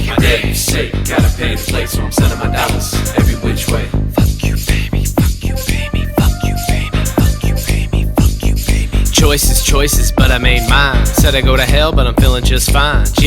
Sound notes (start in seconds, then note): 0.0 rapping; 4.2 whispering; 9.1 rapping